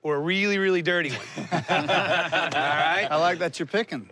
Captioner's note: laughter